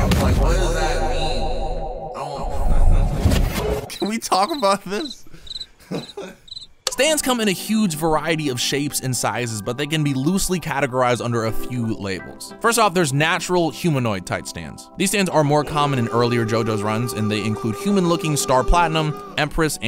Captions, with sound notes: What does that mean? Can we talk about this? (laughs) Stands come in a huge variety of shapes and sizes, but they can be loosely categorized under a few labels. First off, there's Natural Humanoid-Type Stands. These stands are more common earlier in JoJo's run, and they include human-looking Star Platinum, Empress,